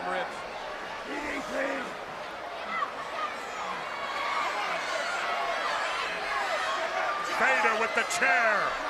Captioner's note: crowd cheering